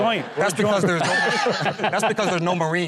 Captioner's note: everyone laughing